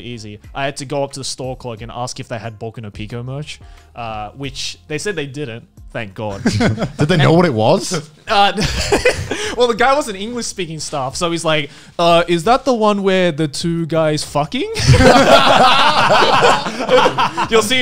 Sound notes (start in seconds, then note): 6.3 laughs; 14.8 all laughing heartedly